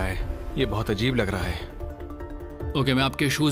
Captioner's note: speaking mandarin